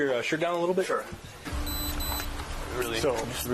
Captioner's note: device beeps